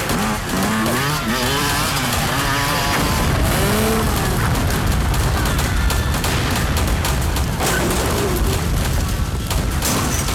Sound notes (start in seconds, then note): 2.7 explosion rumbles; 6.5 guns firing